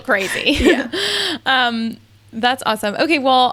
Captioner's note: laughing